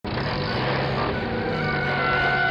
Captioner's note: engine revving